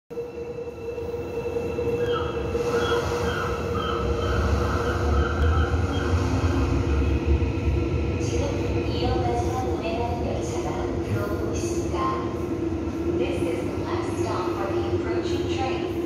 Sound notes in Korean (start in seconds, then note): 2.0 갈매기, 파도 소리